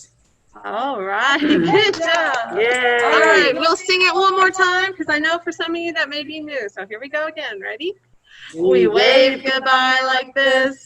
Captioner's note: clapping